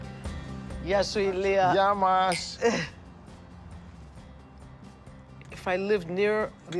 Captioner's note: speaking Greek